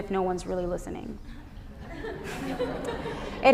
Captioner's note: laughter